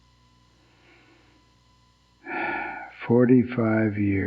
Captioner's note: sighs